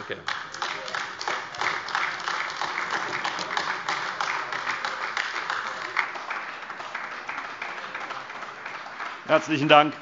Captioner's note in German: Beifall AfD